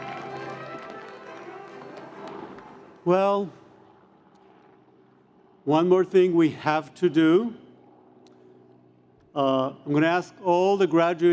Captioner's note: cheers and Applause